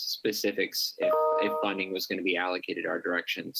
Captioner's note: computer tone